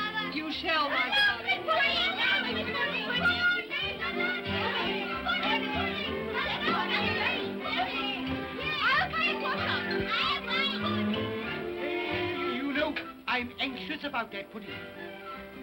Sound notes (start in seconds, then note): 0.8 children clamor; 1.8 upbeat music; 15.4 upbeat music